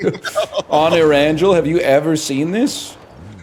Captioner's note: laughs